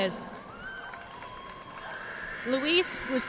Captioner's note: audience cheering and applauding